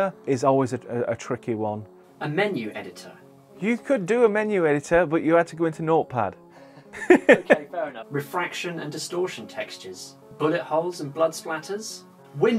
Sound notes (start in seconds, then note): 6.7 laughs